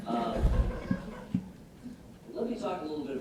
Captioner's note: audience laughing